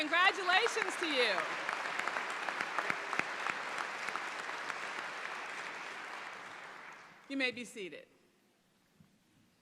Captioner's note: applause